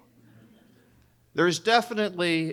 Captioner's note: audience laughing